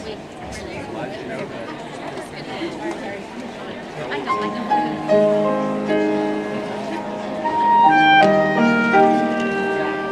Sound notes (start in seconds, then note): 0.4 audience chatters; 4.3 soft music